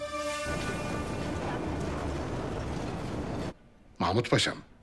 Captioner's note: street ambient sound